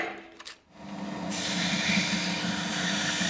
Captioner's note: machine noise